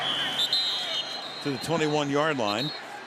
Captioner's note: whistle